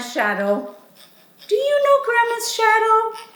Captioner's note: teeth scraping